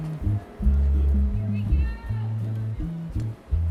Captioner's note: cars passing, distant voice